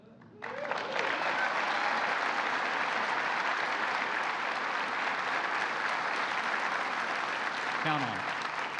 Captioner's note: applause